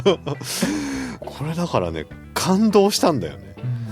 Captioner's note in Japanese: 息をのむ音